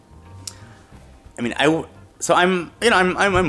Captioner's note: stammering